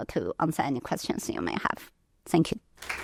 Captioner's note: applause